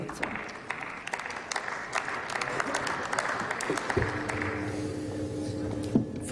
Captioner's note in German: Applaus